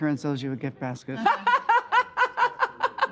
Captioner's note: laughs